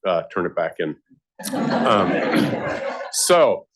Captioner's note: laughter